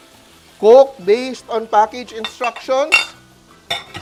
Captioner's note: sizzles